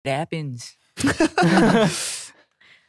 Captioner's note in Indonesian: tertawa